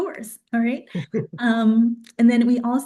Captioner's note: chuckles